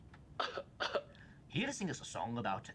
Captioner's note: man coughs